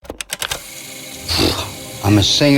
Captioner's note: keys clicking